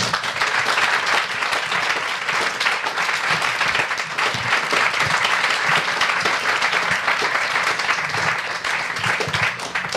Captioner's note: audience applauds